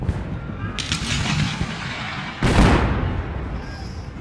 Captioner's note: guns fire